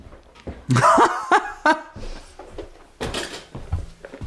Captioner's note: laughs